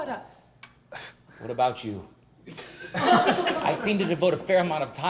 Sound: laughter; laughs

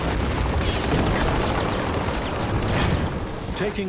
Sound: rapid gunfire exploding; cannon shots exploding

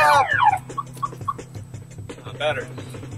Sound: upbeat music; movie mobile dies beeping

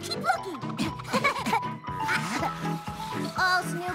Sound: painting noises

